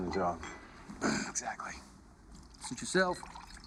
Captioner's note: sighs